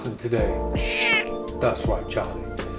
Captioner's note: cat meows